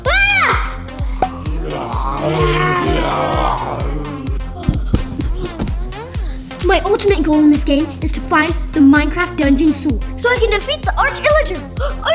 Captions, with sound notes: [screams] [growling] [upbeat music] My ultimate goal in this game is to find the Minecraft Dungeon Sword so I can defeat the Arch-Illager.